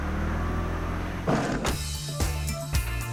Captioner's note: sliding door closing